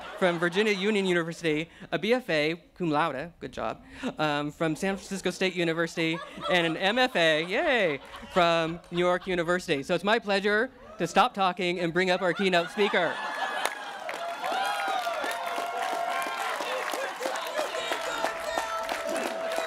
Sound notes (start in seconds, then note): 13.6 laughter; 15.1 cheering